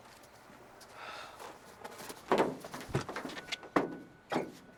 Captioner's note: Ozz sighs